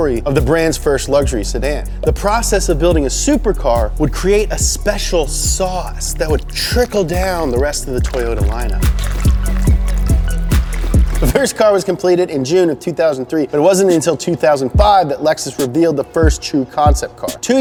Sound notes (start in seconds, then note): 9.4 wet squishy sound